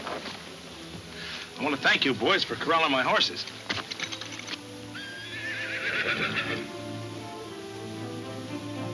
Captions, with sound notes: - I want to thank you boys for corralling my horses. (horse whinnying)